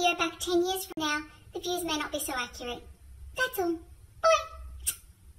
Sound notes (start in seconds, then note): 4.8 smooch